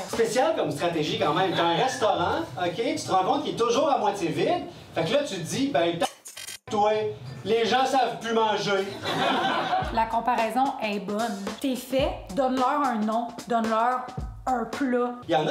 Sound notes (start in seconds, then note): 6.8 beep; 8.8 laughs